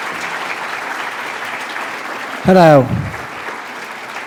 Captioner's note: applause